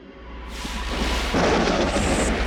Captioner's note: lightning crackling; thunder roaring